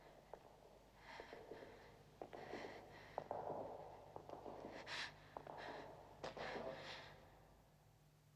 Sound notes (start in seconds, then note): 2.2 footsteps echo